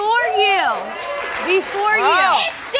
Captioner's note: audience applauds